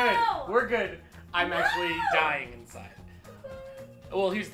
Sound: screams

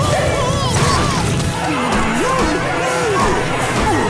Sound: shouting

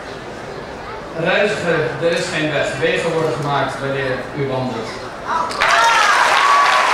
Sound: speaking in foreign language; clapping

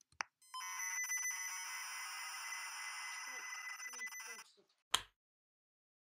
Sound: modem connection beeps; click

